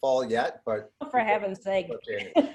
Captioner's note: laughs